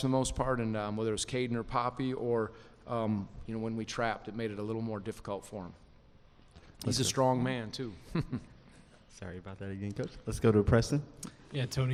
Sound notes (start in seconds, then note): 8.0 laughs